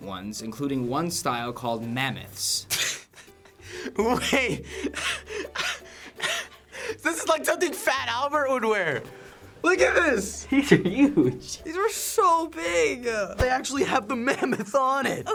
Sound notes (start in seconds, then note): 2.8 snickering; 4.6 catching breath; 9.7 laughing